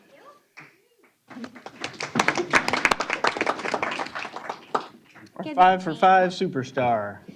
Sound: applause

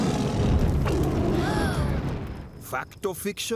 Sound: roars; children gasp

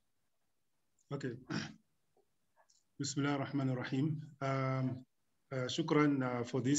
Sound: speaking arabic

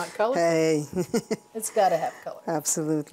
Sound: chuckles

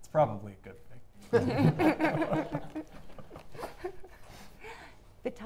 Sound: audience laughing

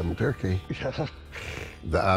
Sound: laughs

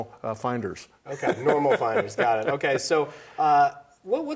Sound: laughs

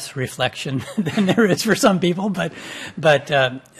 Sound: laughs

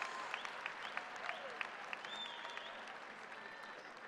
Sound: cheers and applause

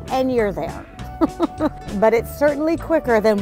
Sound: laughing

